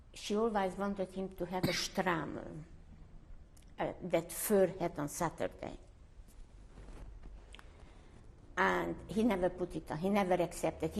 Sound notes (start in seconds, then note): 5.4 pauses for 3 seconds